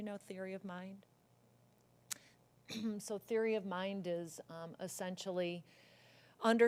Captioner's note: cough